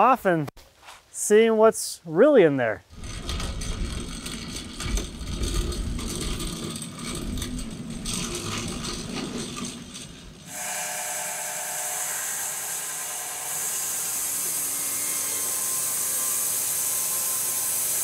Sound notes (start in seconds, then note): 2.9 machine rattles; 10.1 saw whirring